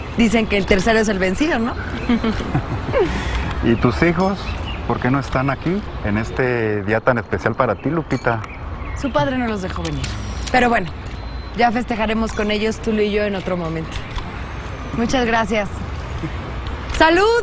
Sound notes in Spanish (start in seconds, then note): 3.6 Ríe